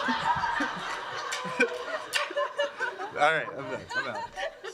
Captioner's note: laughter